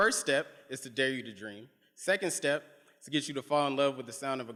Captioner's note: none